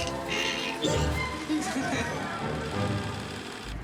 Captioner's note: laughter